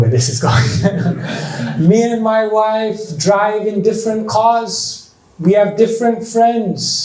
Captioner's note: chuckles